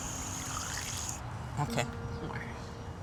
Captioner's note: water running